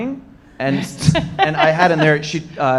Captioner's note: laughing